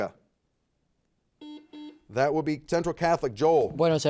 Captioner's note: buzzer beeping